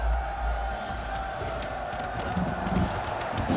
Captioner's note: crowd cheering